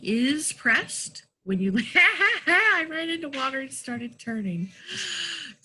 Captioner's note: laughs